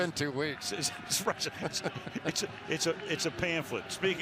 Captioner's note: laughter